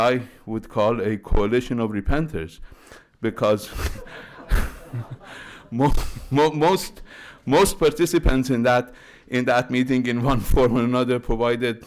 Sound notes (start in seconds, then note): 3.7 laughter